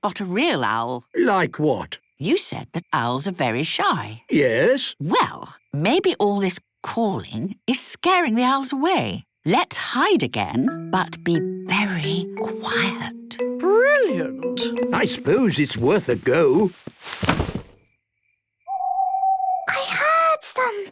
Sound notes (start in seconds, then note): 10.0 whispering; 18.7 owl hooting